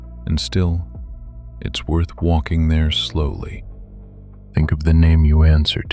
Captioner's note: low voice